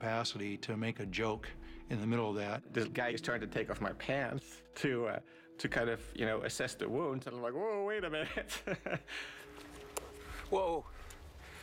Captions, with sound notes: TO MAKE A JOKE IN THE MIDDLE OF THAT. THIS GUY IS TRYING TO TAKE OFF MY PANTS TO KIND OF, YOU KNOW, ASSESS THE WOUNDS AND I'M LIKE, "WHOA. WAIT A MINUTE." [ LAUGHS ] WHOA.